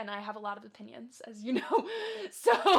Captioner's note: laughs